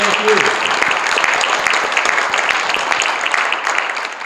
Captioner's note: applause